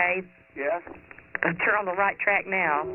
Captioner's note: on phone